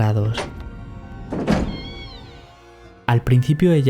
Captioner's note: door squeaks